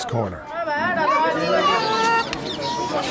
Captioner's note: chatter